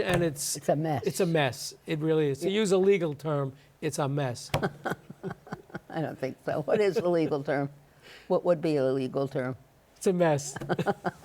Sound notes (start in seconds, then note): 4.6 laughs